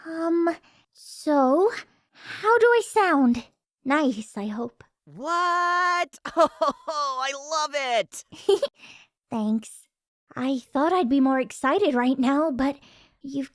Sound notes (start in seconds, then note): 8.4 giggling